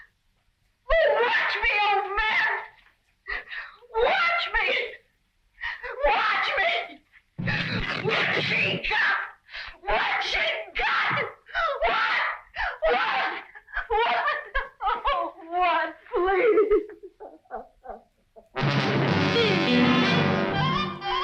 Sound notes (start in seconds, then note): 12.4 crying; 18.5 tense music